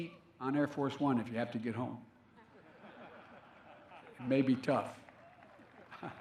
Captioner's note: laughter